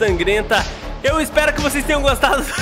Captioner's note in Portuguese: risos